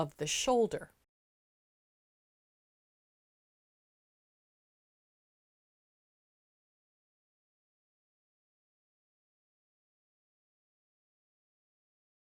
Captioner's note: no Sound Present